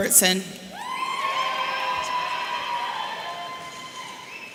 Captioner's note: audience cheering